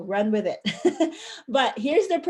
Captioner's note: chuckle